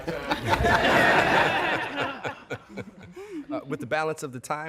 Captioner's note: laughter